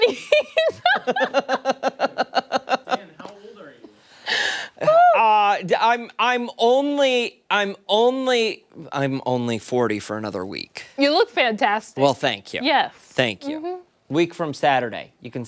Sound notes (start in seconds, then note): 4.9 laughter